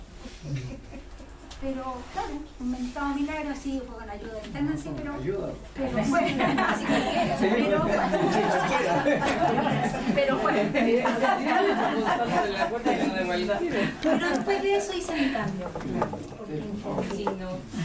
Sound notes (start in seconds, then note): 13.6 laughs